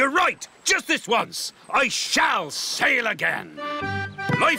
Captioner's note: none